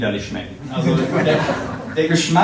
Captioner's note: crowd laughing